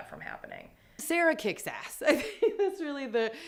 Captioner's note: laughing